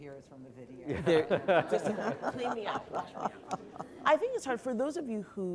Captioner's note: laughter